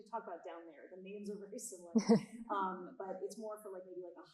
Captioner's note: audience member 2 chuckling